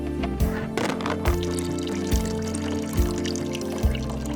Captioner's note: gas trickling